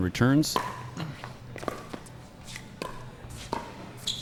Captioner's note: ball being hit